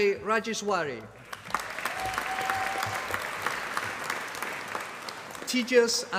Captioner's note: applause